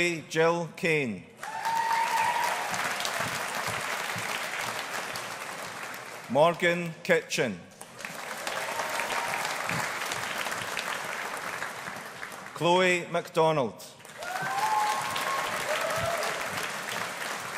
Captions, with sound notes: Eilidh Jill Kayne. (AUDIENCE APPLAUDING) Morgen Kitchen. (AUDIENCE APPLAUDING) Chloe MacDonald. (AUDIENCE APPLAUDING)